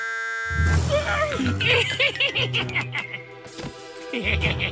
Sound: excited gasp; evil giggle

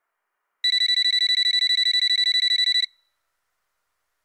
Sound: phone ringing

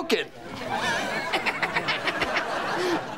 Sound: laughing

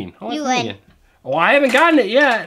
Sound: voiceover

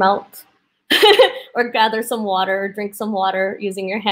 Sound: laughs

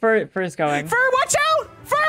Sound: yelling

